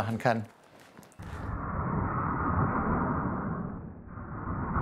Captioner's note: rushing noises in slow motion